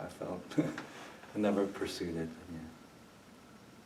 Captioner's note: chuckles